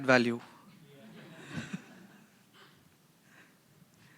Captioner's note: laughter